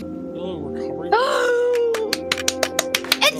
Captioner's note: gasps